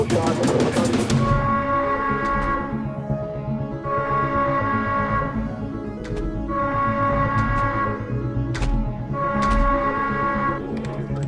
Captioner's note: siren continues